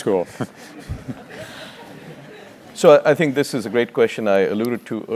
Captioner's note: laugh